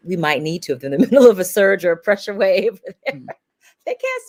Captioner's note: laughs